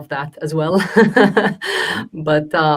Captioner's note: laughing